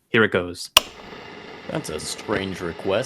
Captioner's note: click of switch